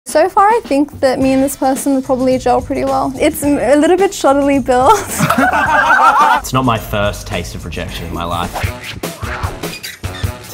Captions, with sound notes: - So far, I think that me and this person will probably gel pretty well. It's a little bit shoddily built. (group laughing) - It's not my first taste of rejection in my life. (playful music)